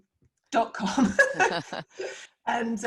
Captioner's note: laughs